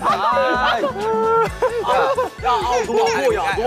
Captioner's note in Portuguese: Os membros estão rindo muito